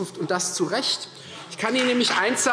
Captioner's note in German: Beifall Freie Demokraten